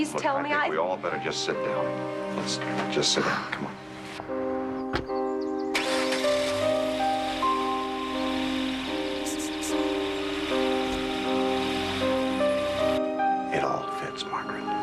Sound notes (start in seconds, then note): 5.7 engine starts